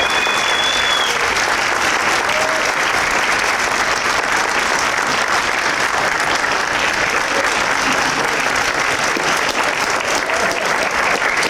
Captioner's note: applause